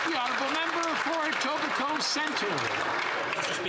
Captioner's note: some Applause